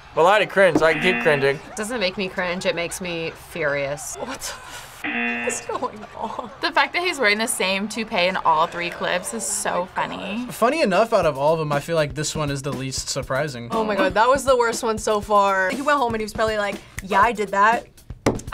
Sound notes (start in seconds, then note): 5.0 buzzer rings